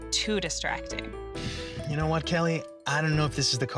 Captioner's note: sighs